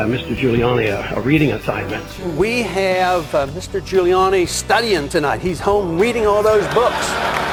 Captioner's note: laughs